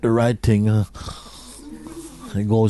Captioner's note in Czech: chrápání